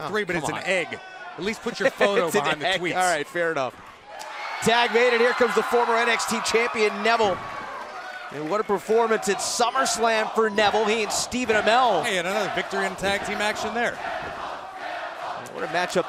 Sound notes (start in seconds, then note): 5.1 cheers & applause; 11.9 fans chanting